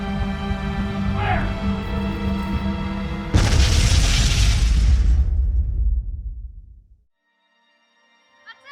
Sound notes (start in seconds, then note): 3.3 cannon booming; 7.2 mournful music